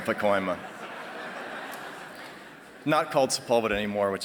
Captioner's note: laughter